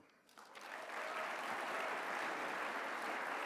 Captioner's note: applause